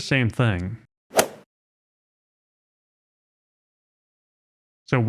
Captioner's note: golf ball hit sound effect